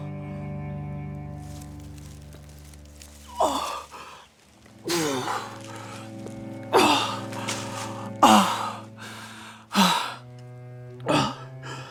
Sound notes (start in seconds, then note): 3.4 Arawn groaning; 8.3 Arawn breathing heavily